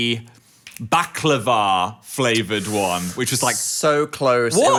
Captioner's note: teeth sucking